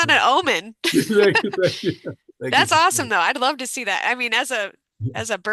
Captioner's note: laughter